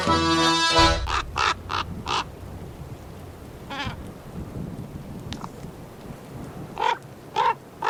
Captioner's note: raven cronking and making playful sounds